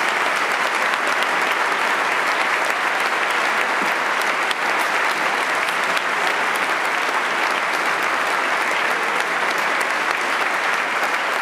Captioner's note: applause